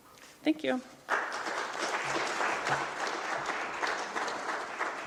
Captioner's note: applause